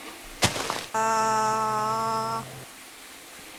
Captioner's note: screaming